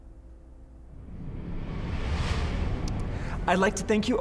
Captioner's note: air whooshing